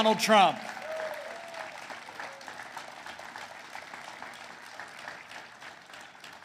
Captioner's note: applause